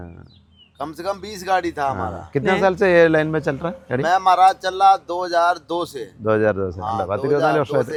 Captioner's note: speaks in Hindi